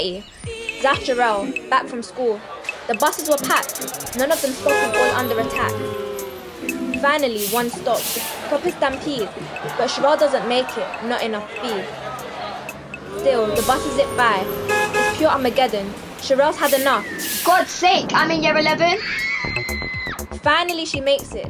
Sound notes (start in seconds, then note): 18.9 scream